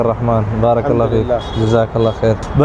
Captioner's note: Arabic